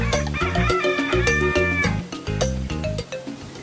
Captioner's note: rooster crowing